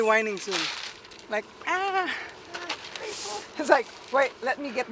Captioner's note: loud yelp